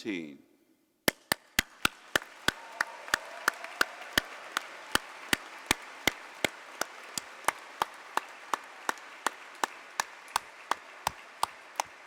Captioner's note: applause